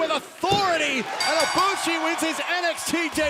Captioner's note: bell ringing